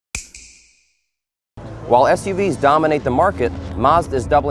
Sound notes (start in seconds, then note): 0.1 snap